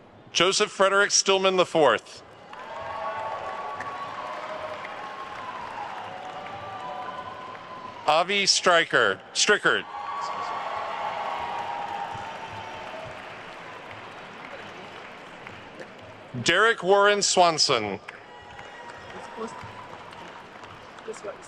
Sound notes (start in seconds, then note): 2.2 attendees cheering and applauding